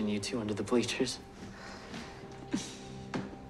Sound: sighs; chuckles

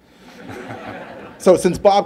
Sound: laughter

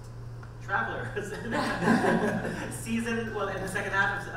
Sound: panel laughing

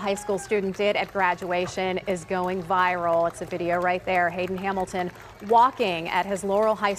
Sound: cheering and applause

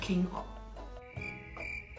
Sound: crickets

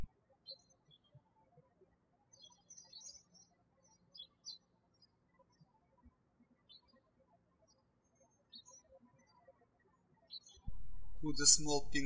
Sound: birds chirping

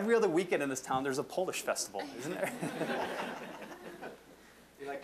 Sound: audience laughing

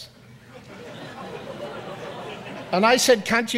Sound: audience laughs

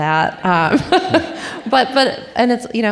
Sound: audience laughing

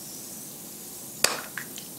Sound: pop

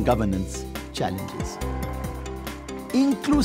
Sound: crowd cheering

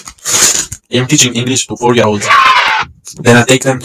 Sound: yaaay

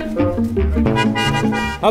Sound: car horn

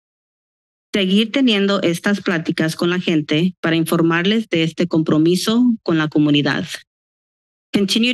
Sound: foreign language

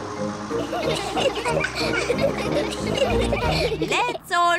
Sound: all giggle

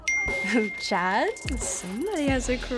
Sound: phone dinging

